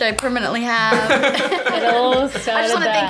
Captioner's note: laughs